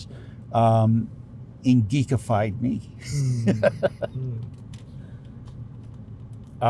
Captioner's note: laughs